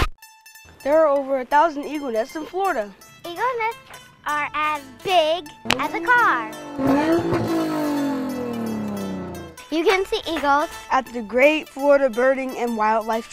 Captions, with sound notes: There are over 1,000 eagle nests in Florida! Eagle nests are as big as a car! (Car sound: VRRRroOOOOOoooooOOOoommm!) You can see eagles on the Great Florida Birding and Wildlife Trail